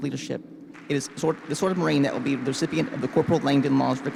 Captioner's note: participants clap